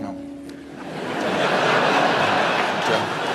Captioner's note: laughter